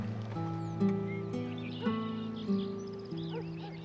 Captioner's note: birdsong; distant barking